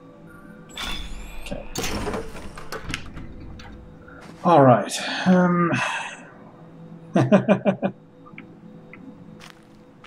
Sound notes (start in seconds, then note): 4.3 sighing; 7.1 chuckles